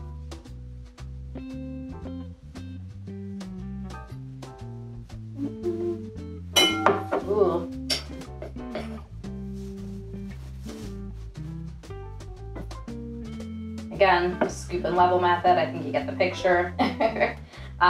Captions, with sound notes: (glass dings) (festive jazz music) Again, the scoop and level method, I think you get the picture (laughs).